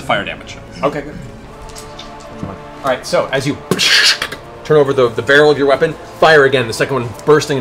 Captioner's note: gunshot